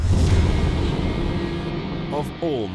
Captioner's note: rocket engine roaring